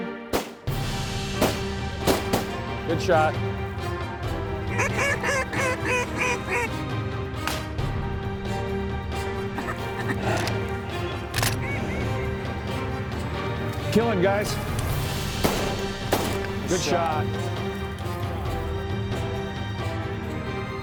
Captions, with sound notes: (GUN SHTOS) >>GOOD SHOT. (DUCK CALLS) (GUN SHOT) >>KILL HIM GUYS. (GUN SHOTS) >>GOOD SHOT.